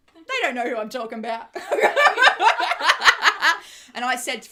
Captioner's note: laughs